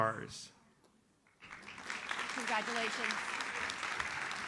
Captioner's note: audience applauds